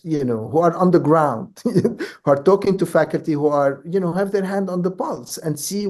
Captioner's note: laughs